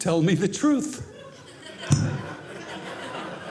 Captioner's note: audience laughing